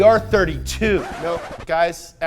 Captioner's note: skidding